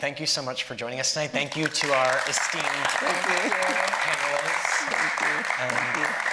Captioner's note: audience applauding